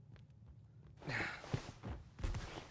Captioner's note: sighs